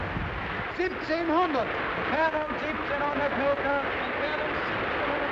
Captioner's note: speaking in foreign language